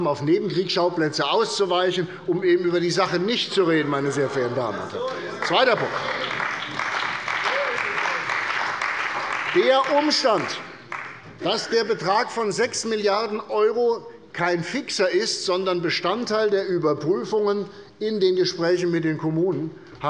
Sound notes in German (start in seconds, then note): 5.0 Beifall bei der CDU und dem BÜNDNIS 90/DIE GRÜNEN